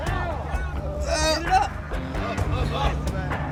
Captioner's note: students groaning